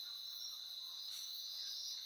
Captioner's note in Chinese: 蚊子的聲音